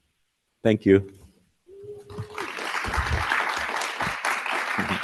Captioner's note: audience clapping